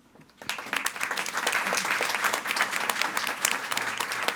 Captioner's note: audience applauding